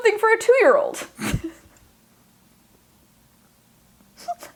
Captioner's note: laughing